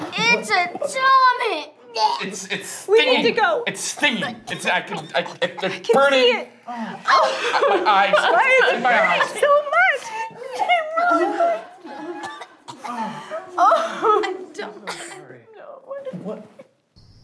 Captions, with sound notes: It's atomic! It's, it's stinging—We need to go!—It's stinging. I can, I can... It's burning.—I can see it! My eyes. It's in my eyes. She ruined my dinner! *sobbing*